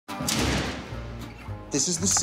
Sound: door closing

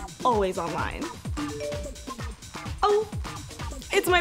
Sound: text message tone

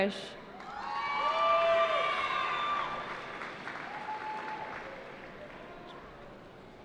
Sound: cheering

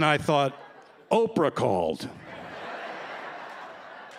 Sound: laughter

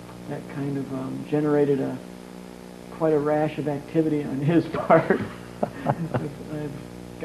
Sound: laughs

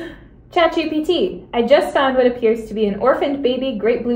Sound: audible gasp

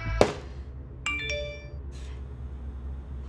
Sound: text alert

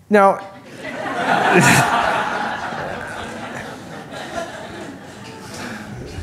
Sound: laughter

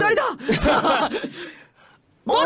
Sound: laughs

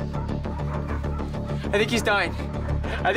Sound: dogs bark; tense music continues

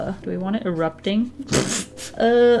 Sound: laughs

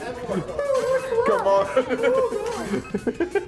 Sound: laugh

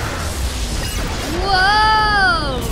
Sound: crash

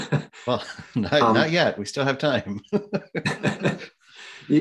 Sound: laughs

